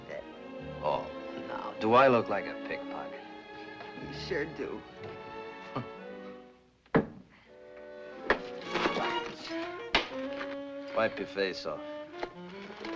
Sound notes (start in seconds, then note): 5.7 chuckles